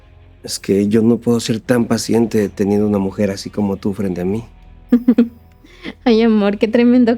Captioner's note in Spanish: risas